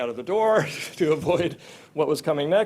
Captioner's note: giggles